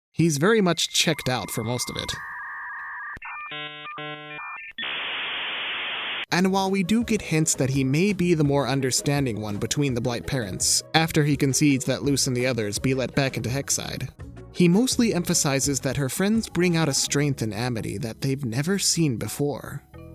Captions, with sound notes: - He's very much checked out for most of it. [dial-up modem squeals] - And while we do get hints that he may be the more understanding one between the Blight parents after he concedes that Luz and the others be let back into Hexside. He mostly emphasizes that her friends bring out a strength in Amity that they've never seen before,